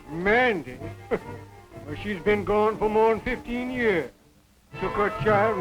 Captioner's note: chuckles